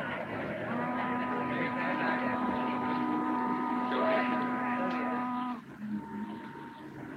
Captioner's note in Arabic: ثرثرة الناس; صوت البوق